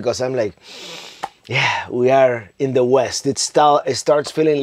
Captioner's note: inhales deeply